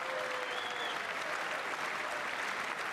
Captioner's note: applause